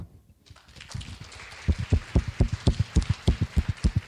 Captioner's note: clapping